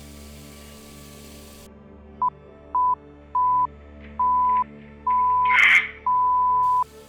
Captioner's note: beeping